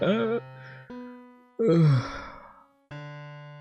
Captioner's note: holds back crying; sigh